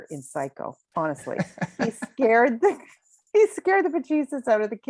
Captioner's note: laughing